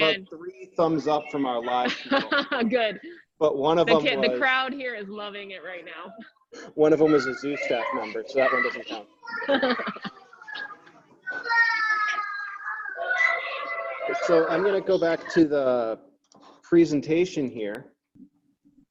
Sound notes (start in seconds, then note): 1.8 chuckles; 9.5 chuckling; 9.6 children chattering